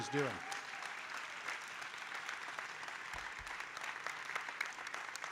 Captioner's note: audience applauding